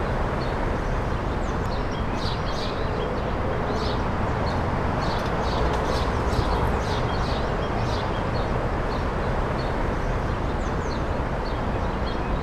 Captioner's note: birds chirping continues